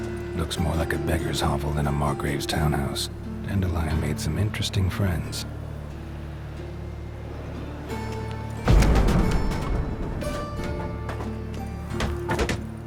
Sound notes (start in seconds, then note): 8.6 thunderous boom; 10.0 debris clatters